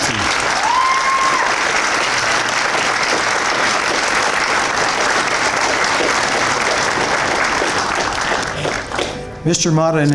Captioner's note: applause and Cheers